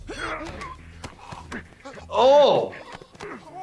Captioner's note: grunting